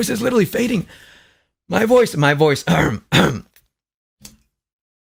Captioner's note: coughs